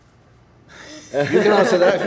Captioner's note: laughter